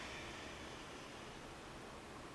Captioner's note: breathing sounds